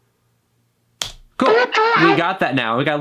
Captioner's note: distorted vocals